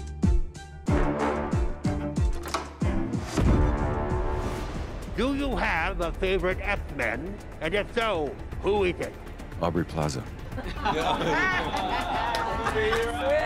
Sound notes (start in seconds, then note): 10.5 laughter